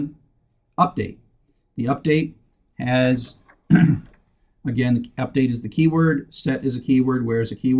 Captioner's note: cough